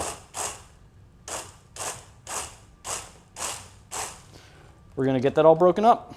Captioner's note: immersion blender whirring